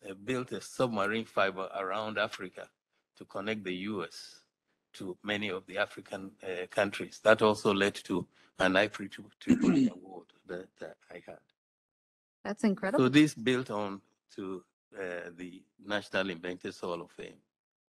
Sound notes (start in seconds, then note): 8.7 faintly speaking; 9.4 clears throat